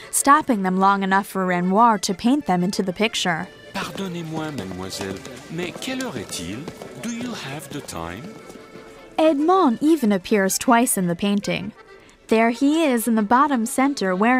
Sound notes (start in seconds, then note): 5.1 speaking french